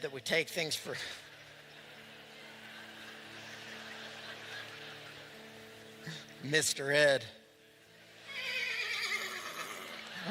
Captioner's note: laughter; whinny; laughter